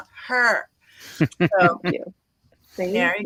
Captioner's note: laughs